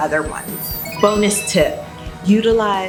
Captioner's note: video game ding